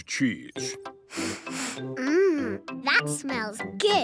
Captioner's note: sniffs